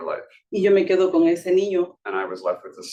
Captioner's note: speaking Spanish